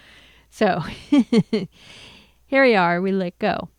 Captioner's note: laughs